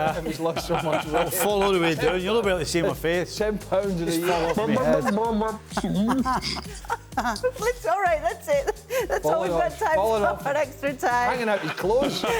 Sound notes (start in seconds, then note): 0.1 laughter; 5.7 laughter